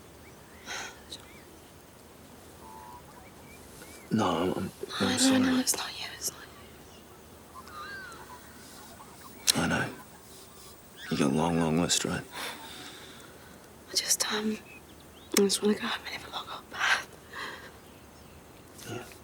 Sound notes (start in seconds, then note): 0.7 sighs; 4.6 stammers